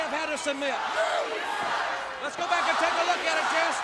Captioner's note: crowd cheering